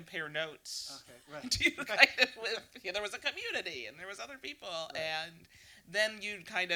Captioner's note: laughing